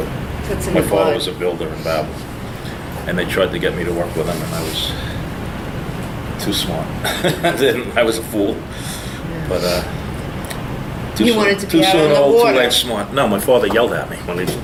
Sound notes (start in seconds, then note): 7.0 laughs